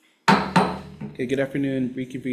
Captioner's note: gavel clanking